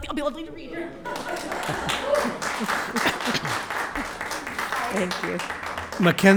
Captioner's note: audience applauding